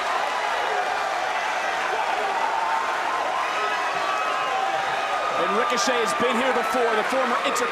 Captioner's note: crowd cheers